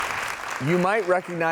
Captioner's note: audience clapping